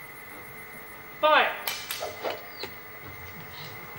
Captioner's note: arrows whoosh